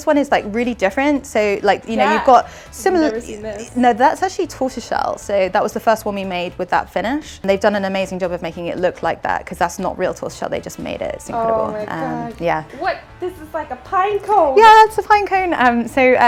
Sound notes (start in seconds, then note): none